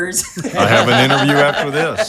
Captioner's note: all laughing